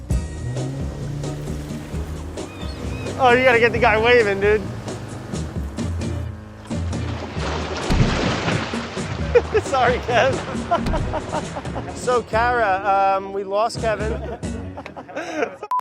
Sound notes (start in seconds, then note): 0.0 upbeat music; 7.4 splashing; 9.2 laughs; 14.0 group laughing